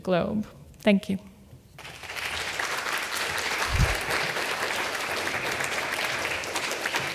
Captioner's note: applause